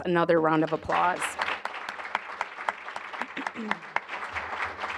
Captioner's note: applause